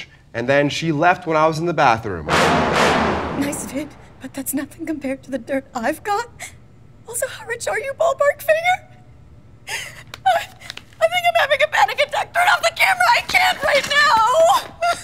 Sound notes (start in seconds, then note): 2.2 dramatic music; 9.6 sobbing